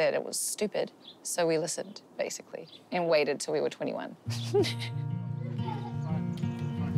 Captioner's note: chuckles